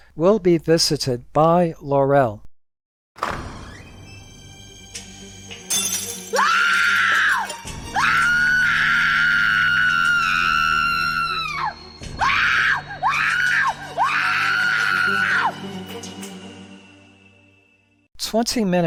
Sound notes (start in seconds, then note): 5.6 glass breaking; 6.7 maid screaming in horror